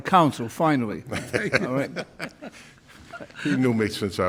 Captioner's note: laughing